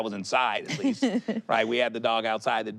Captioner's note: laughs